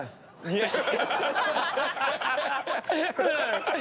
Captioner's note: laughter